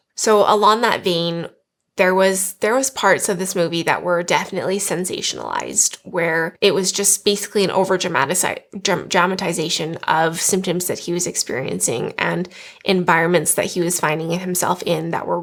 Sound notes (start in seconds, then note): none